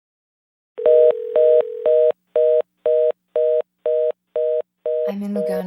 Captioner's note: dial tone beeping; dial tone ringing